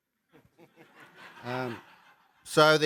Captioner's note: laughter